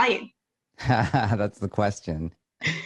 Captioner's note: laughs